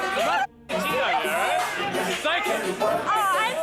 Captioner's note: none